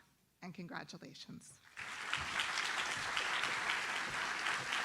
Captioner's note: audience applauds